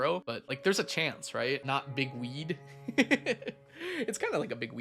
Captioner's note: laughs